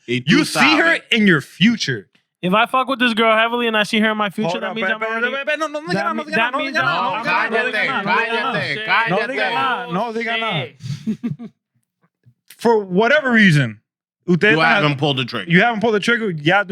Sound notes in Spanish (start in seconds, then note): 8.7 Hablando en idioma extranjero